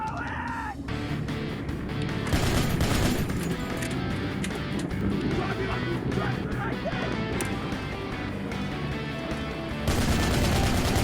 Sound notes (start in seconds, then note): 2.3 gunshots